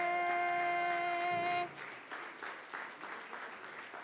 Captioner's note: audience applauding